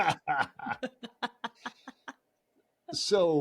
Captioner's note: laughing